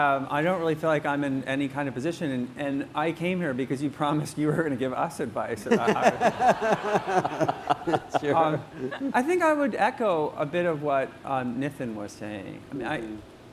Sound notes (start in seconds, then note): 5.6 laughter